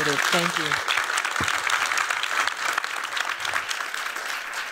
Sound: applause

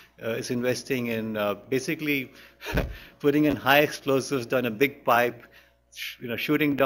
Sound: chuckles

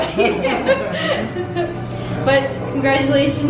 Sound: laughing

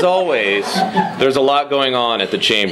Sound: laughter

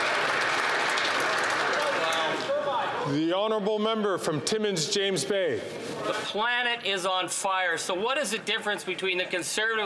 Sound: applause

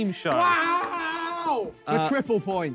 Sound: Ethan yelling

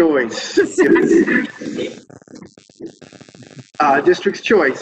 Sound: static interference

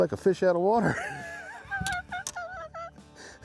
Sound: laughing

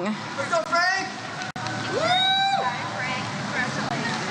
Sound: audience member cheers "Let's go Frank"

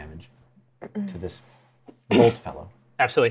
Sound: clears throat

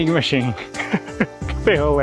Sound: chuckle

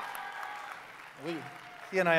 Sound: cheering

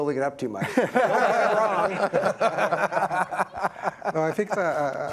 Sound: laughter

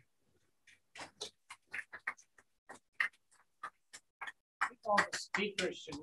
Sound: applause

